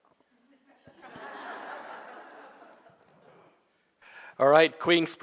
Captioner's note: audience laughing